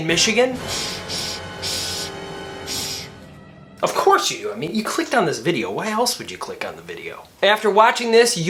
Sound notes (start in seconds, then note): 0.1 dramatic music; 2.6 shushing